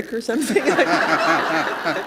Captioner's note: laughter